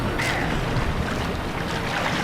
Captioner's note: splashing